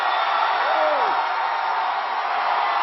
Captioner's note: applause